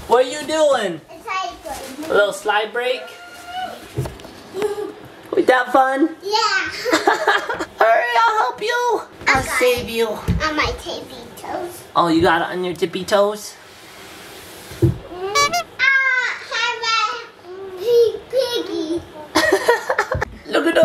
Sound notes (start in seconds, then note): 6.8 laugh; 15.9 shouts; 19.3 laughs